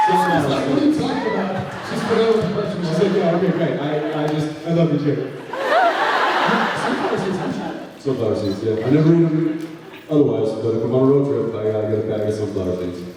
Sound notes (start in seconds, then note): 5.6 laughs